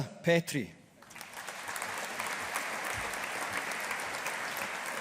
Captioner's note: audience applauding